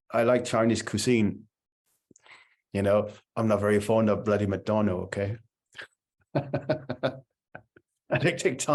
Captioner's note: laughter